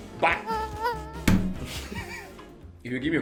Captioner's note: smacks table